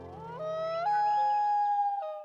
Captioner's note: howling